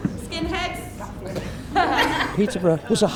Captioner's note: teens laugh